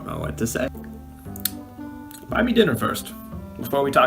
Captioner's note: lip smacking